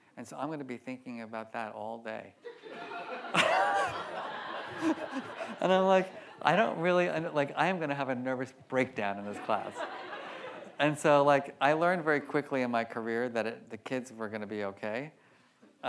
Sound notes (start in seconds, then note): 2.5 audience laughs; 2.5 laughs